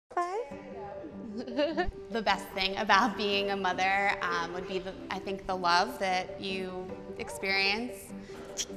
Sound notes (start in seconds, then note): 1.2 laughs